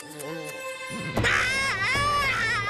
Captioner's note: screaming